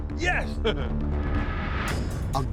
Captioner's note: laughter